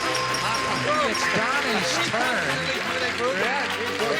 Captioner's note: ding